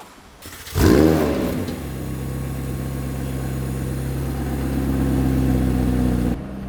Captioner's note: engine revving